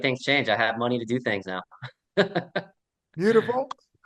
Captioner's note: laughs